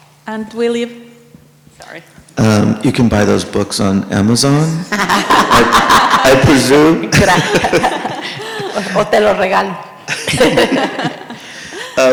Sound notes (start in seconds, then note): 4.7 presenters laugh; 10.9 more laughing